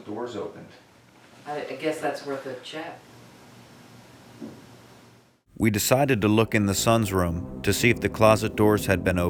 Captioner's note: thump